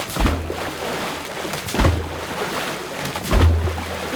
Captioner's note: sloshing continues